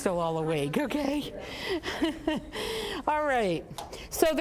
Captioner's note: all laughing